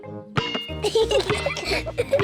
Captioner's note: giggling